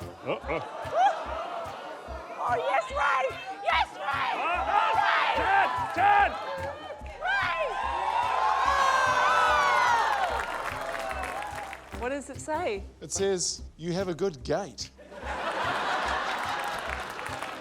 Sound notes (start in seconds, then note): 1.4 shrieks; 4.4 shouting, cheering; 7.7 cheering; 8.7 applause; 15.0 laughter